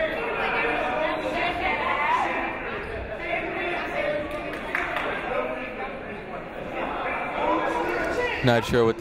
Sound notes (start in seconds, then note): 1.3 chatting